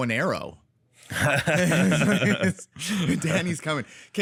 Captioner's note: both laugh